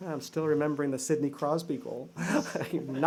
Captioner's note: laughter